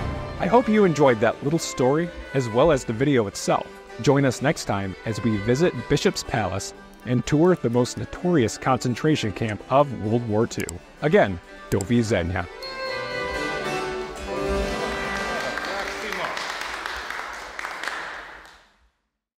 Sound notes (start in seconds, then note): 15.0 clapping